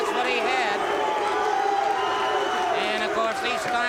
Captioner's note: crowd cheering